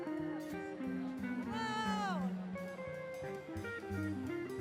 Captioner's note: yelling